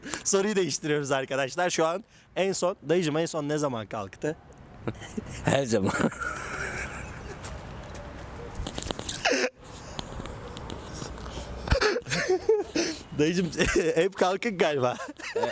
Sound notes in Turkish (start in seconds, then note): 7.0 kahkahalar